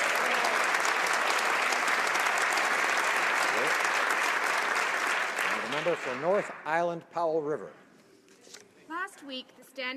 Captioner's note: some Applause